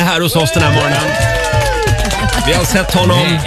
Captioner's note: cheering